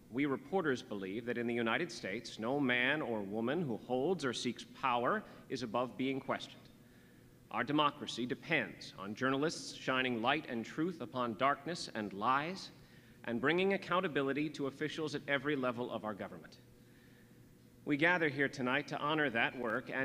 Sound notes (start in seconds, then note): none